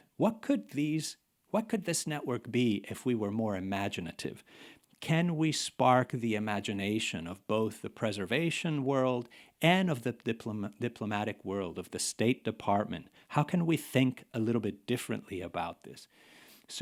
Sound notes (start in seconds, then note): none